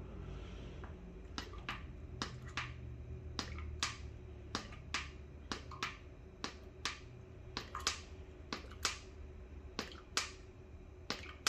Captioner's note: pouring ink sound